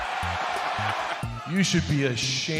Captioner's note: crowd cheering